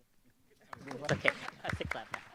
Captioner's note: audience applause